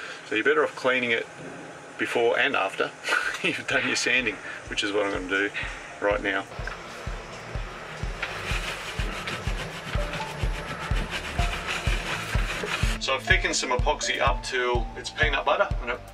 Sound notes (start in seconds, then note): 3.0 snickers; 9.8 upbeat music